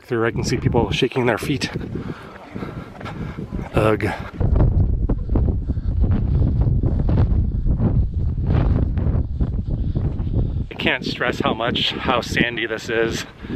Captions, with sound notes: I can see people shaking their feet. Ugh. [Wind blowing] I can't stress how much... how sandy this is.